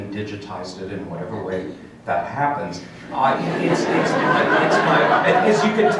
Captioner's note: laughter from crowd